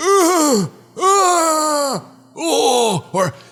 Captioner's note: moaning Noises